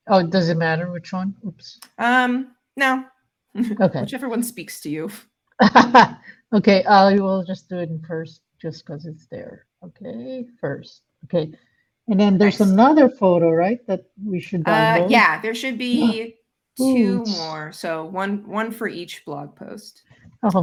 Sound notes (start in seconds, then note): 6.0 laughs